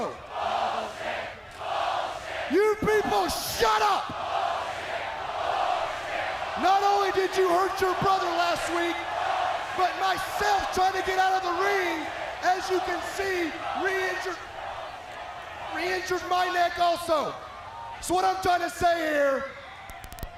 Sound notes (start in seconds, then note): 3.2 crowd cheering